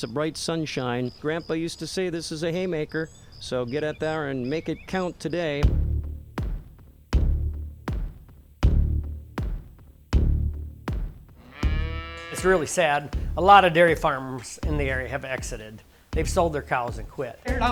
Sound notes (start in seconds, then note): 8.6 upbeat music; 11.4 cow mooing